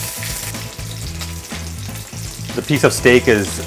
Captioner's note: meat sizzling